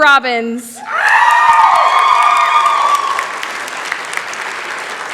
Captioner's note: cheering